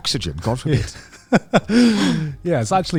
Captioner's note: laughing